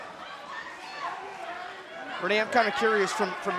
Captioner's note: crowd shouting